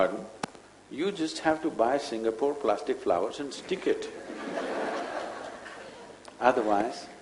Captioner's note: laughter